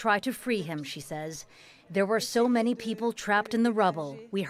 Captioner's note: speaking alternate language